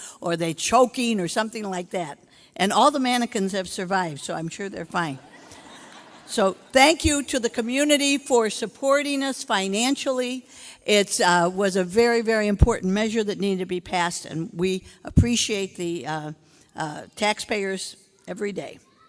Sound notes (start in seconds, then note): 5.2 audience laughing